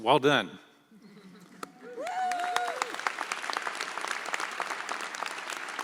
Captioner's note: audience applauds